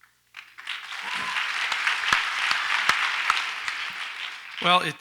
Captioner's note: audience applauds